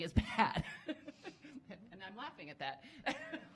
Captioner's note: laughing